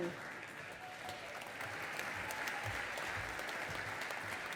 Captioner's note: audience applauding